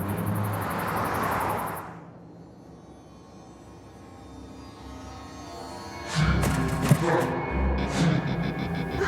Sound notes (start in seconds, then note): 0.2 ominous music; 6.2 rustling